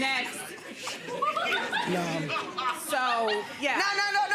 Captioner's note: audience laughs